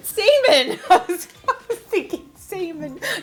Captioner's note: laughing